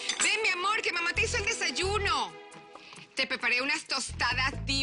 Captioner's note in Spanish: Soplidos